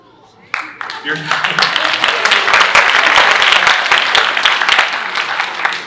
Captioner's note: audience applauding